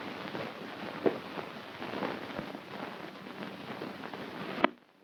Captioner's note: hooves clomping